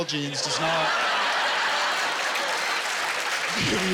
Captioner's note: laughter